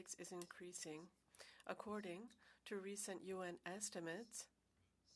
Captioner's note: speaking French